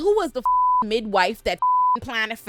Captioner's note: beep